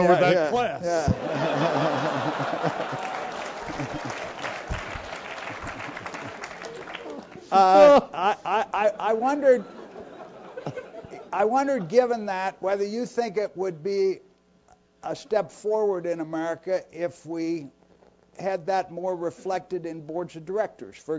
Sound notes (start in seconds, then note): 0.0 laugh; 5.2 applause